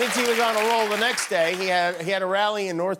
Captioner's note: applause